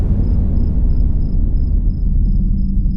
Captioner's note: wind picking up